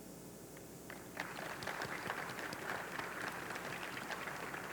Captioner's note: audience clapping